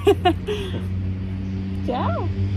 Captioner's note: laughs